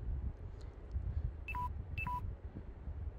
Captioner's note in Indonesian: Suara baterai lemah